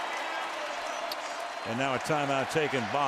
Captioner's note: pa announcement